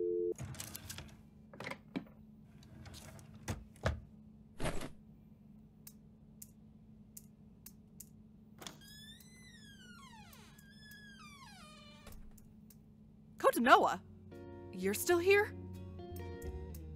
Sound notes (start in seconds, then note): 0.4 KOTONOHA opens drawer; 2.6 KOTONOHA closes drawer; 4.5 KOTONOHA plops onto bed; 8.6 door opens; 10.5 door closes